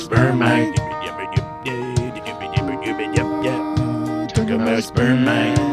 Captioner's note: cowboy sounds